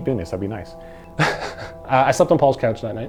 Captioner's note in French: en riant